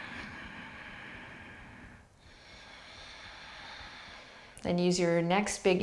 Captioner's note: inhaling and exhaling